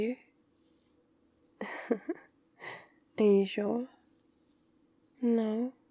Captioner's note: laughs